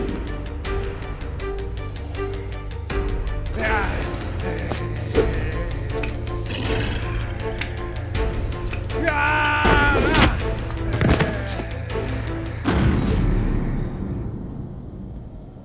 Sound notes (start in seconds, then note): 3.5 man groaning; 6.2 growling; 10.9 thudding; 12.7 dramatic music